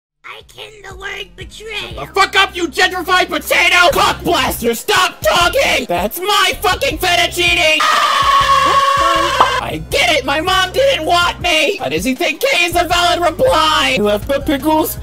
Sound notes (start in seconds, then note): 7.8 angered screams of the stressed; 7.8 pink shrieking continues